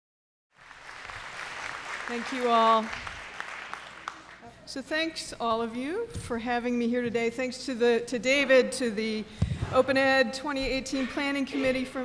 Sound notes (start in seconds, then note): 0.5 applause